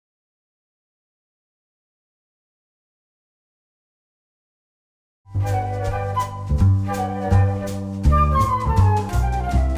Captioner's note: whooshing sounds